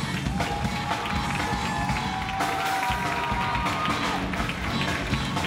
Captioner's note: audience applauds